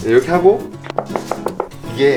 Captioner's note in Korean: 칠판 두드리는 소리